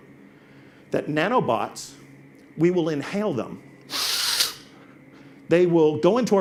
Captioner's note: sniffs